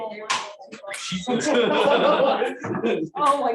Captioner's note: laughter